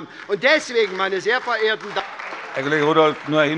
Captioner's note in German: Beifall SPD, Freie Demokraten und DIE LINKE